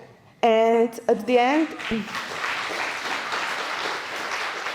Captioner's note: applause